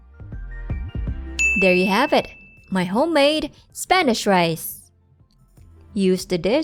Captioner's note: timer Dings